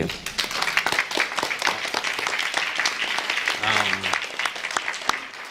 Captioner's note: applause